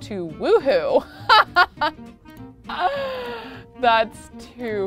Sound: laughs

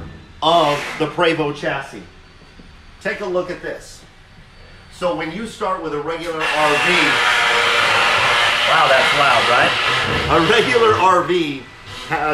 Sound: machine buzzing

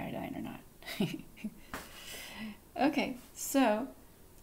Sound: chuckles

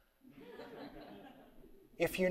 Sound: audience laughing

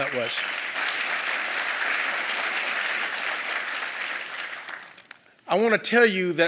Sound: applause

